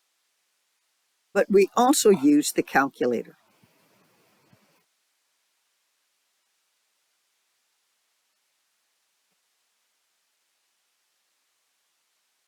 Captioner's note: 7-second silence; 10-second silence